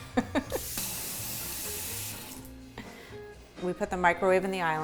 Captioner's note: laughs; water coming out of faucet sound